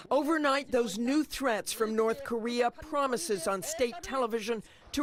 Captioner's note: speaking a foreign language